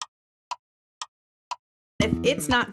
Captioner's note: clock Ticking